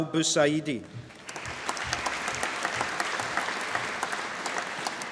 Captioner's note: applause